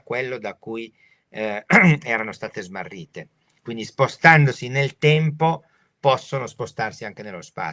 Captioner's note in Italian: schiarire la voce